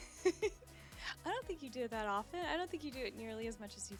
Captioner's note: laughing